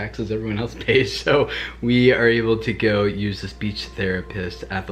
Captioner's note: laughs